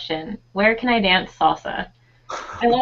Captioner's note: laughing